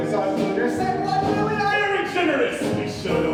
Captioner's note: shouted